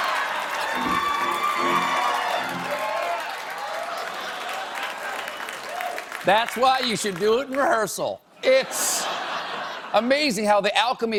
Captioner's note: laughter